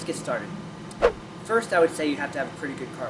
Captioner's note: swipe sound